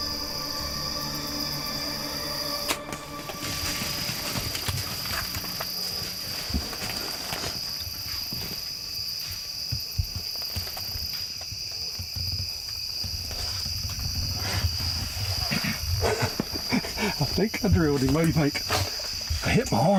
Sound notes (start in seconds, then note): 2.4 arrow whooshing; 4.3 rustling; 16.0 laughing